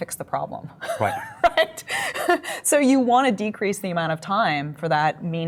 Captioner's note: laughs